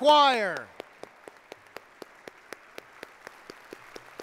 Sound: congregation applauding

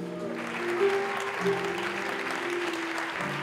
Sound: applause

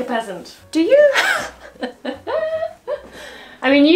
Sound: laughs

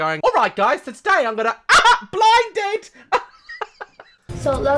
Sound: laughs

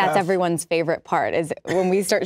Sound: laughs

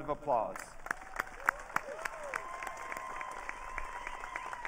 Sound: audience cheering

